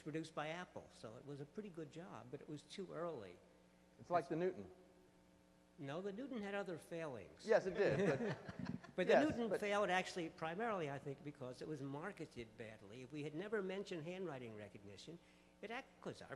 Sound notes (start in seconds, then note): 6.1 voiceover; 9.3 voiceover